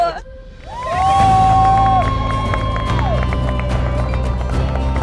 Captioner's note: cheers